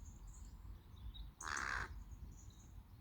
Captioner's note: crow noise